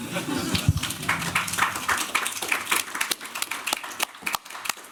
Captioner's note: applause